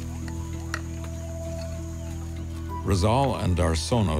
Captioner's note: bird calling